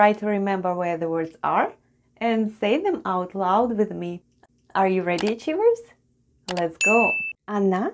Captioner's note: click and ding sounds